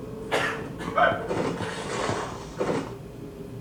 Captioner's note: dragging